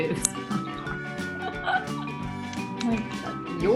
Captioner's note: laughs